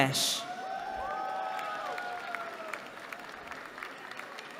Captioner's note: cheering